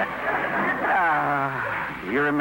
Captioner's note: laughter